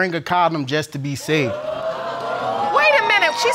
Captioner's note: audience exclaiming